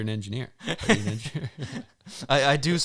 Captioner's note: both chuckling